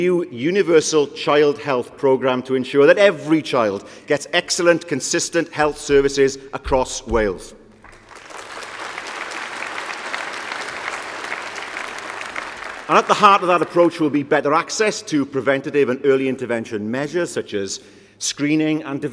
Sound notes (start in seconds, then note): 10.6 applause